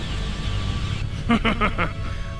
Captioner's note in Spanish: Risas